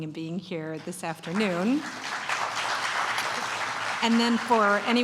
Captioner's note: applause